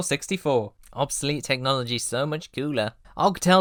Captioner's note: nasally